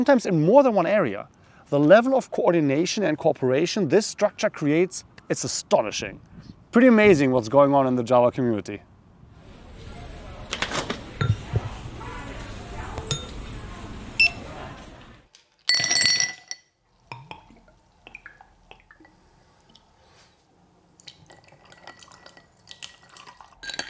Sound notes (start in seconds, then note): 9.3 supermarket background noise; 10.5 refrigerator door opening; 11.2 bottle move sounds; 14.5 supermarket background noise recedes; 15.6 ice cubes clanking; 17.2 Licor 43 pouring into glass